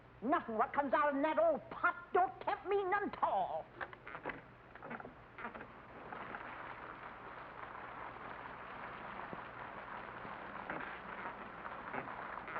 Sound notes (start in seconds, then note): 4.7 rocking chair creaks; 6.1 rain patters